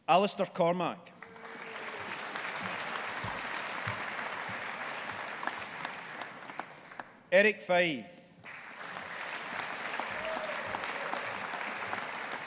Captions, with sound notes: Alastair Cormack. (AUDIENCE APPLAUDING) Erik Faye. (AUDIENCE APPLAUDING)